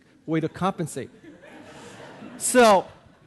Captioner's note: audience laughing